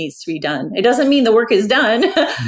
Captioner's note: laughs